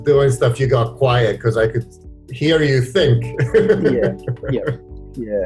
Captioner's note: laughs